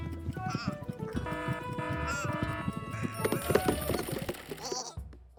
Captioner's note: alarm ringing